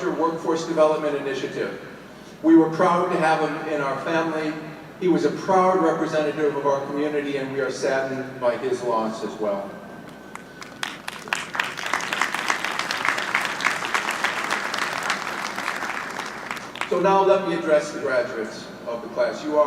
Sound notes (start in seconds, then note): 10.3 audience applauding